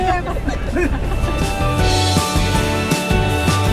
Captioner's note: laughing; upbeat music